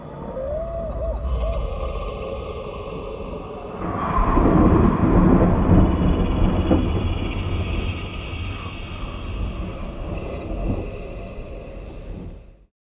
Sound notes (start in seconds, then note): 0.0 owl cries